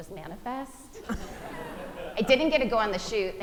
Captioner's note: audience laughing